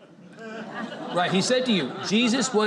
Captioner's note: audience laughs